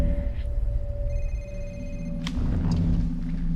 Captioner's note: phone rings